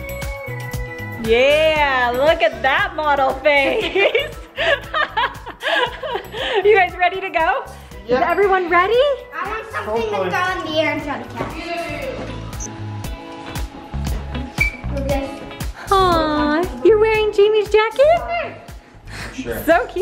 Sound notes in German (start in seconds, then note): 0.1 beschwingte Musik; 3.7 lacht